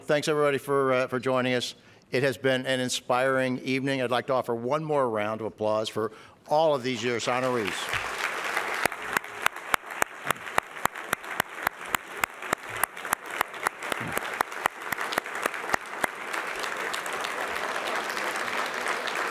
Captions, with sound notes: Thanks, everybody, for joining us. It has been an inspiring evening. I'd like to offer one more round of applause for all of these years honorees. [APPLAUSE]